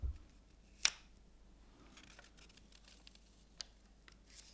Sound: laminate snaps; paper rustling

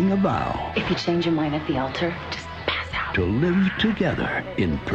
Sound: voice-over; voice-over

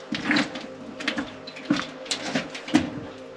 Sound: clanking

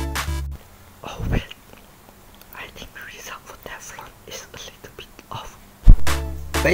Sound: whispering

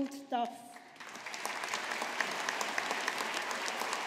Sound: audience applauding

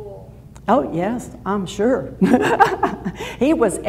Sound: laughs

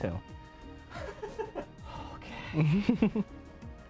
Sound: laughs nervously; laughs

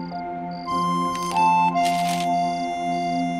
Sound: paper rustling

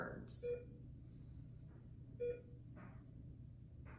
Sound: beeping

